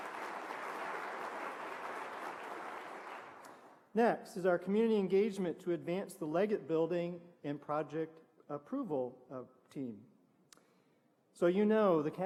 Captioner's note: applause